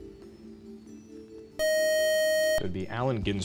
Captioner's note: time out buzzer